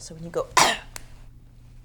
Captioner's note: coughs